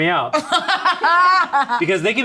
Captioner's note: laughs